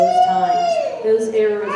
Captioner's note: baby continues crying